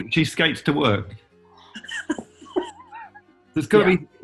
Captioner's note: laughing